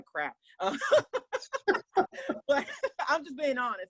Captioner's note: laughs